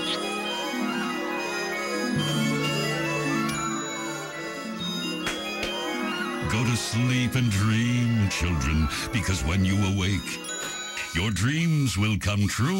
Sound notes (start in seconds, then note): 0.2 drowsy music; 5.2 claps